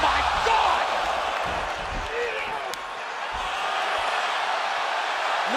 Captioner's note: crowd cheering